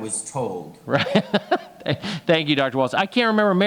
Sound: laughs

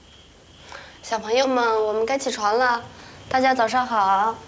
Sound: speaking Chinese

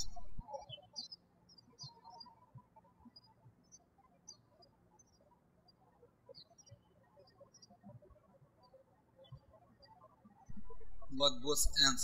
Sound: birds chirping

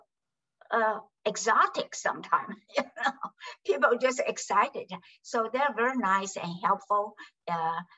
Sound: laughs

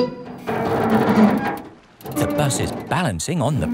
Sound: creaking

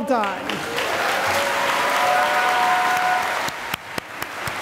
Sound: cheering and applause

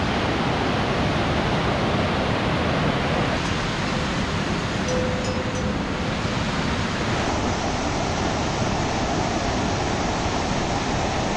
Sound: river sound

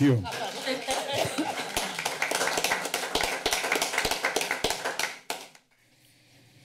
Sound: applause

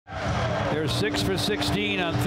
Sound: crowd cheering

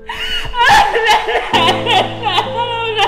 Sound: sobs

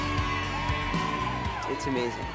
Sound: all cheering

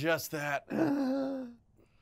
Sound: gasps

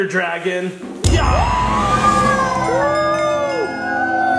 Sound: cheers

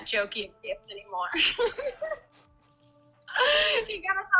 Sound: laughter

